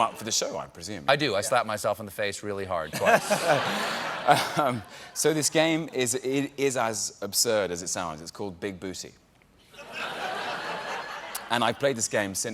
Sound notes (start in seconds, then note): 5.9 laughter